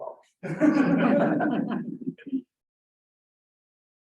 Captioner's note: crowd laughs